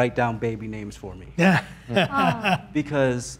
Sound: laughs

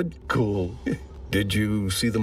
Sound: chuckles

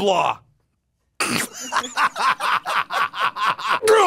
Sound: laughs

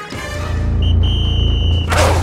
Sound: whistle blowing

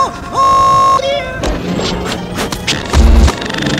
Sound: slamming Sounds

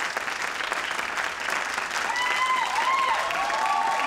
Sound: crowd cheers

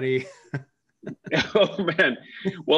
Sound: chuckles

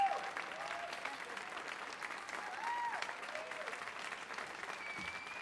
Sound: audience applauds

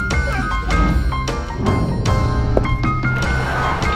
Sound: city noise

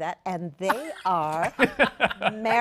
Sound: laughter

